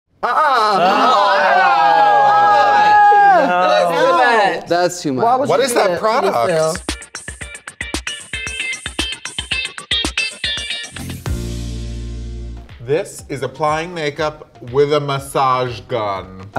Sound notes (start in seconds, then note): 1.3 all shouting; 7.5 upbeat music